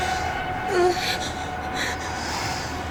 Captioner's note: breathing nervously